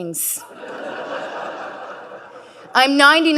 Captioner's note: audience laughing